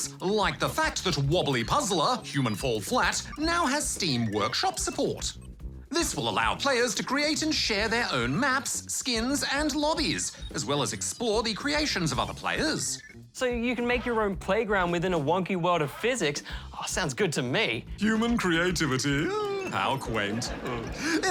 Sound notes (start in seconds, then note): 18.8 chuckles; 19.9 laughter